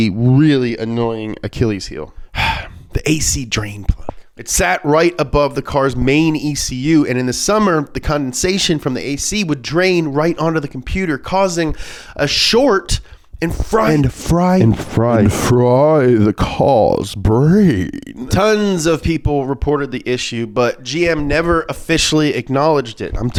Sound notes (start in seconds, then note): 2.3 sighs